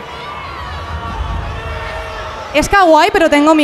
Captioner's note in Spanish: Gritos